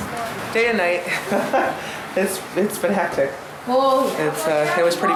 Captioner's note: laughs